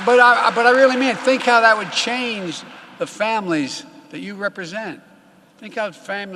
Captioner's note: applause